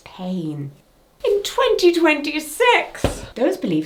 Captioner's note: clipboard thuds